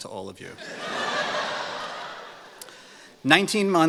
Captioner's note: laughter